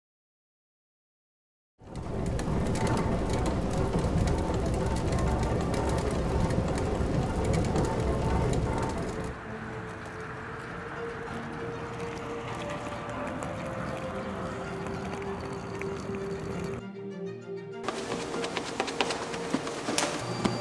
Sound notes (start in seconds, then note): 1.9 stand mixer turning; 10.1 soft string music; 13.1 suitcase rolling; 18.1 utensil scraping bowl; 20.0 timer beeping